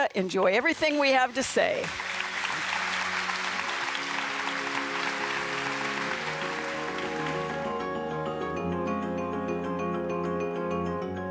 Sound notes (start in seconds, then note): 2.2 audience claps; 8.6 calming music